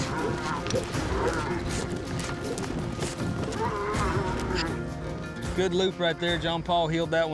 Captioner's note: mooing